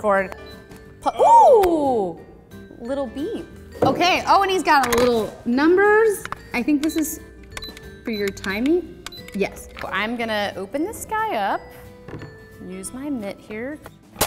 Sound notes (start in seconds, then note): 7.2 clicking